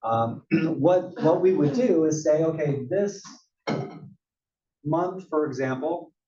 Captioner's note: cough